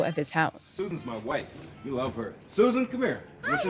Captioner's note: soundbite of tv show, "sesame street"